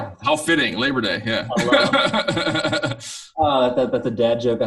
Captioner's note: laughing